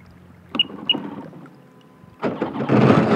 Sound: jet ski beeping; engine revving

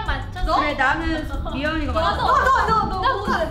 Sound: speaks in Korean

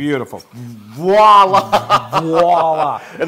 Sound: laugh

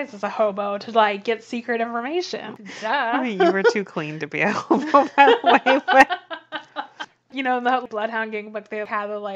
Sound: laughs

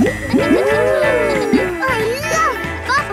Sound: kids gasping and laughing

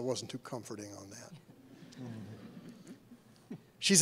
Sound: laughter

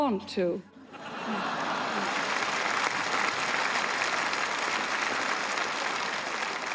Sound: audience laughing and applauding

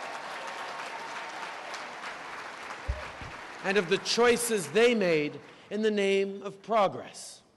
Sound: applause

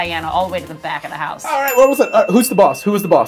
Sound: ding

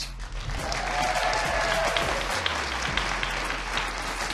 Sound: audience cheering

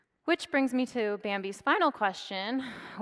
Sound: none

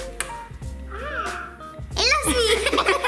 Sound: Hatchimal squeals

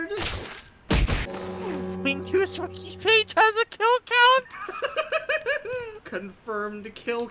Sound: death knell

